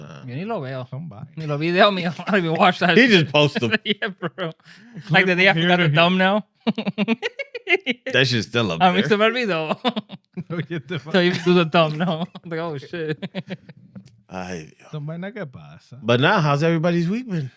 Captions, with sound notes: (Speaking In Foreign Language) He just posted. Like the day I forgot her thumb now. (Laughing) That shit's still up there. I'm ex-sabar-vi though. (Laughing) Tell you to do the thumb now. I'm like, oh shit. (Laughing) (Speaking In Foreign Language) But now, how's everybody's weeping?